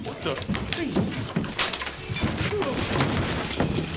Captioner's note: glass shattering